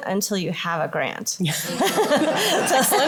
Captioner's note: laughter